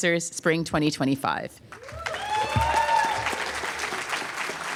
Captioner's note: applause